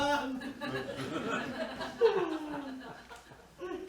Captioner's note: she sobs